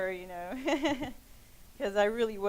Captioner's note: laughing